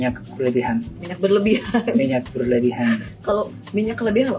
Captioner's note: laughs